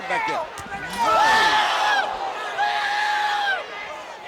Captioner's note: all exclaiming